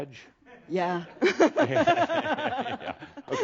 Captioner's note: they chuckle